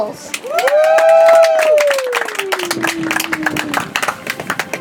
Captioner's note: audience applauds